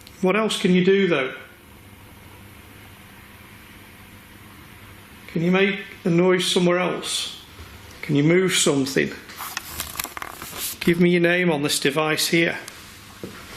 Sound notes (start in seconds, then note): none